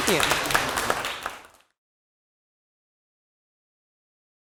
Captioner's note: applause